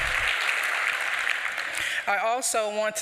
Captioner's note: applause